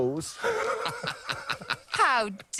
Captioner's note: laughter